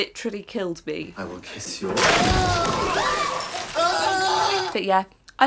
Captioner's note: screams